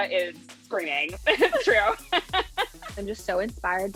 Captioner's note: laughs